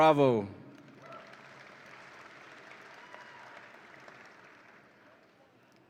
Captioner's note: audience applauds and cheers